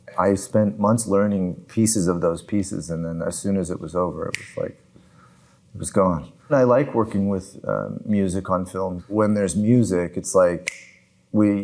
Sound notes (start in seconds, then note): 4.3 snaps fingers; 10.6 snaps fingers